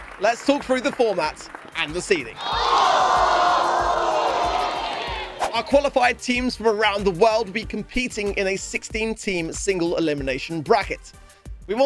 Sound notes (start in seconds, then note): 2.3 crowed booing